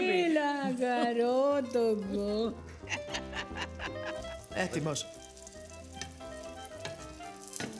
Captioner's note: speaking in greek